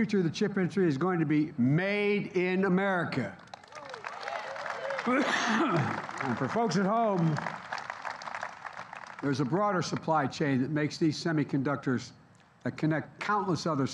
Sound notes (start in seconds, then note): 3.3 applause